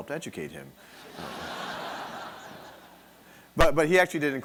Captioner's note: audience laughing